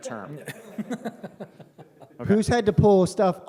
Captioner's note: laughter